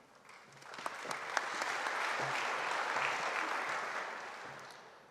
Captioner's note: audience applauding